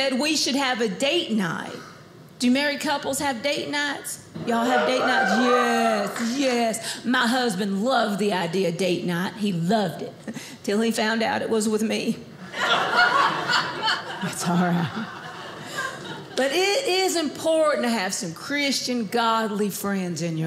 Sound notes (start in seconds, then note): 4.4 audience cheers; 12.5 audience laughing